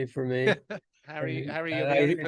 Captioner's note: laughs